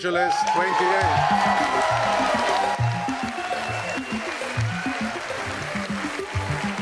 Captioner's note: audience applauding and cheering